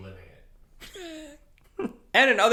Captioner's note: laughs